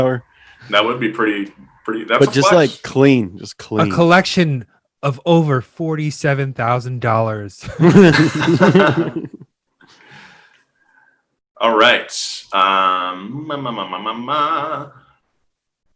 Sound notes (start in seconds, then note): 7.7 hosts laughing